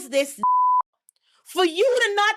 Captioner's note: beep